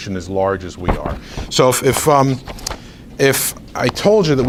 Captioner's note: rustles papers